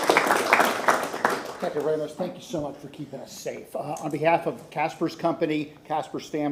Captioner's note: applause